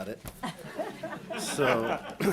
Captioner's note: audience laughing